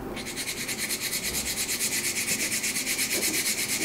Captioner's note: fine grinding noise